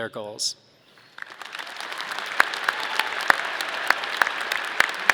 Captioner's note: audience clapping